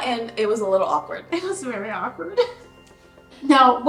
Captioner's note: laughing